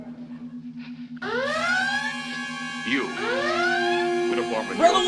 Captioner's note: Red alert siren sounds